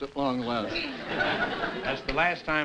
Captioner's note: laughter